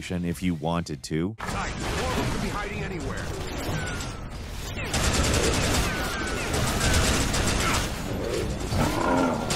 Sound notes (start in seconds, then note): 3.5 monsters grunting; 4.9 guns booming